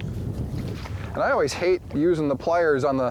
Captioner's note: splashing